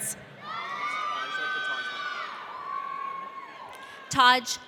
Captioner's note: audience cheering